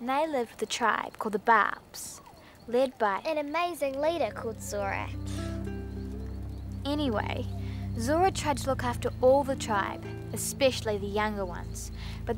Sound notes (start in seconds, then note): 5.2 Erin sighing